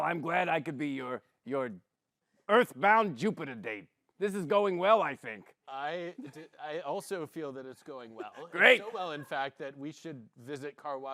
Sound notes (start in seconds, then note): 8.7 gruffly